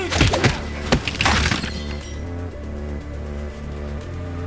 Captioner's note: fists thudding; men grunting; glass crunching